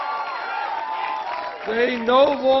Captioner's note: applause